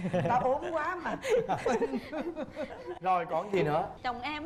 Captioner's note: laugh